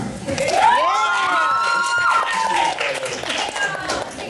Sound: applause

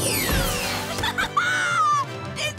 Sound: laughing

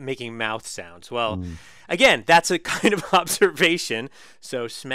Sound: laugh

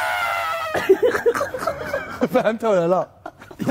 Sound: trumpets; laughing

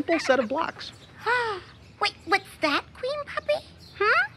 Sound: gasps

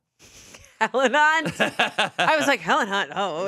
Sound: laughing

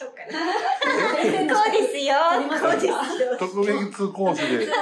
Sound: laughs

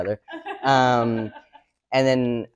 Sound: audience member laughs

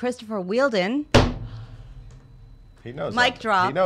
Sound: smacks table

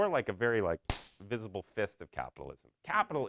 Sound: punches hand

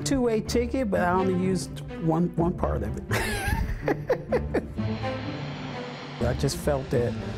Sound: laughs

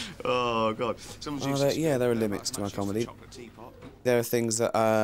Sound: David voiceover

